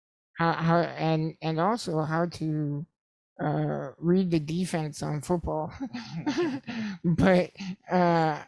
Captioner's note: laughs